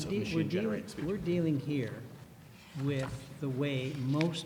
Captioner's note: voiceover